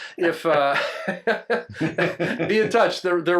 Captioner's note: everyone laughs